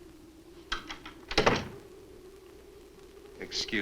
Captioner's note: door closes; door opens